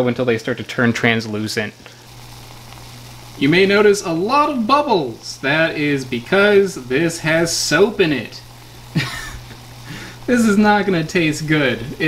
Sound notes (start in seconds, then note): 1.8 water bubbles; 8.9 man laughs